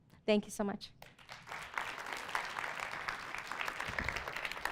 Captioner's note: audience applauds